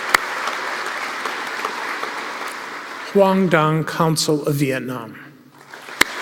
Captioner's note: applause; applause